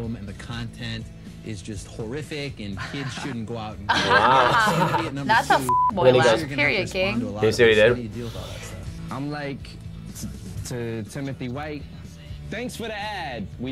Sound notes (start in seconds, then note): 3.8 laughs; 5.6 beep